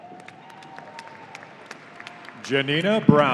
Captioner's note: audience applauding